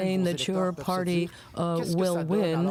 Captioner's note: speaking French